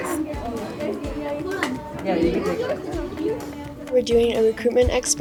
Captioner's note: students chattering